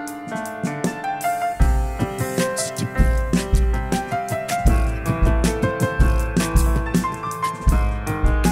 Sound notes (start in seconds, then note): 1.6 beatboxing